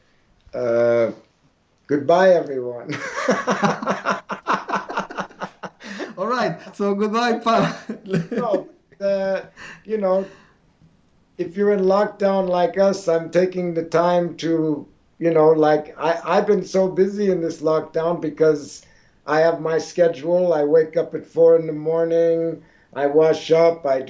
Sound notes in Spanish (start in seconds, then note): 2.9 Risas; 2.9 pausa; 7.4 Risas